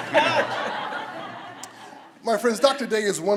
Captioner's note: everyone laughs